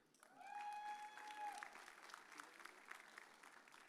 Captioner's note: audience cheers